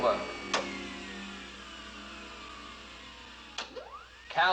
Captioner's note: button Clicking, Mechanical Whirring